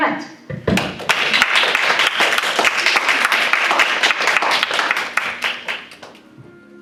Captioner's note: applause